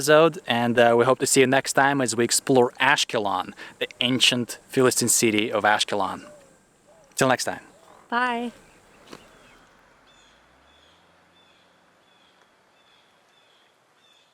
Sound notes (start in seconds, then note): 9.9 birds squawking